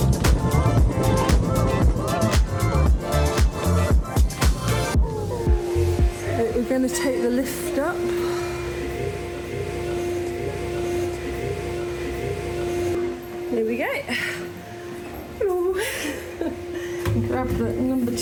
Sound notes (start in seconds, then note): 9.2 loud hoovering noise; 15.4 laughing